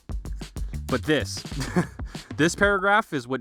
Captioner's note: chuckles